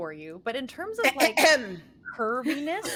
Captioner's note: clearing throat dramatically